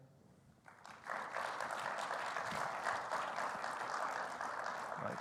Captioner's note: audience clapping